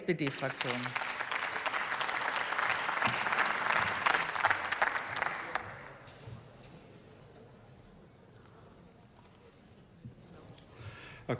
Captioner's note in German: Beifall